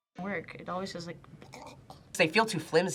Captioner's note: gags